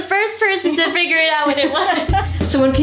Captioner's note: laughs